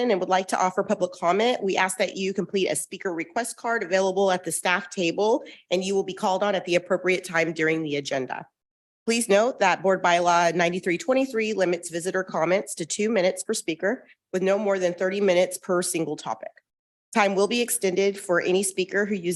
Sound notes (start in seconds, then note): none